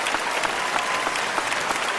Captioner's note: applause